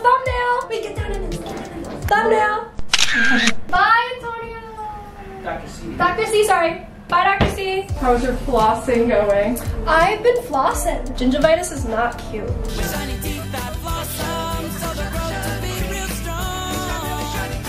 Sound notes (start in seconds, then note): 2.8 camera shutter clicks